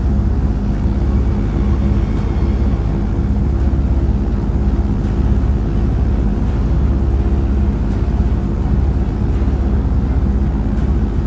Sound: airplane engine sound

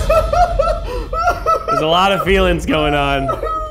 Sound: giggling

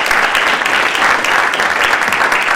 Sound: applause

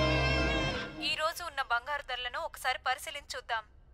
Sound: TV news

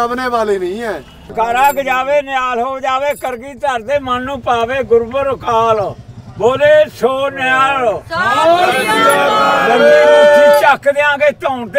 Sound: chants religions Slogans

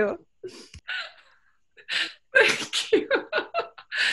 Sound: cheerful laughter

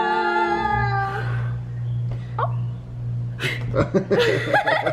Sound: blows candles; laughter

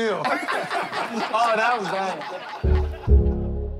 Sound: laughter; dramatic hip-hop music

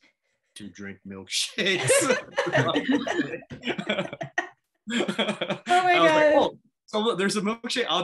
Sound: laughter

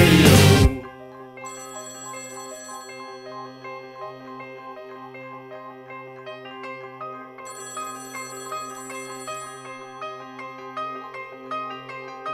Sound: telephone rings

